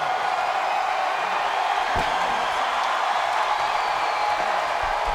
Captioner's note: audience cheers